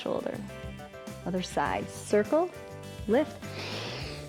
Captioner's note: inhales